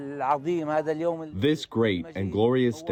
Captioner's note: through translator